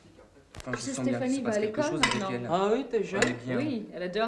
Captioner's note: speaking french